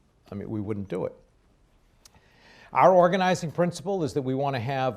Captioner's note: none